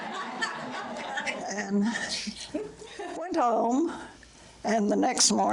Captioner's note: audience laughter